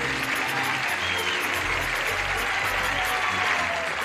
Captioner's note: cheers and applause; laughter and cheers